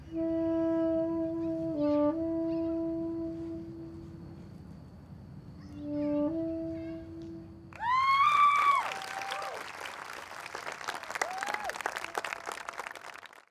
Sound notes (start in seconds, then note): 7.7 audience cheers; 7.7 audience applauds